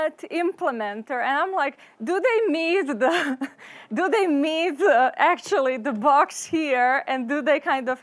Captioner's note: laughs